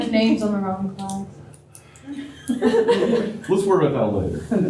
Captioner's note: laughter